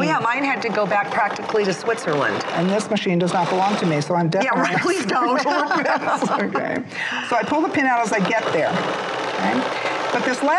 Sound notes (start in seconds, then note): 5.2 laughing